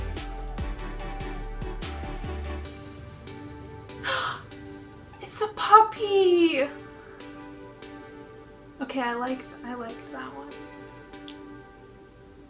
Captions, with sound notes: [Gasps] It's a puppy! Okay, I like that one.